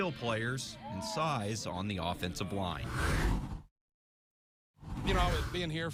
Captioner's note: air whooshes